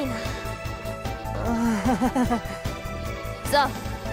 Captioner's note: very awkward laugh